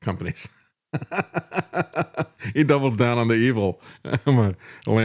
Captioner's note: laughs